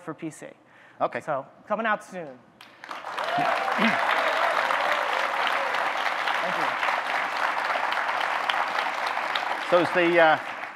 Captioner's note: audience clapping, cheering